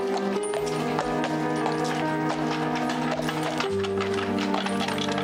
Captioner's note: horse hooves clopping